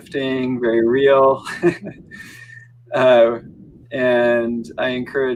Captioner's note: chuckles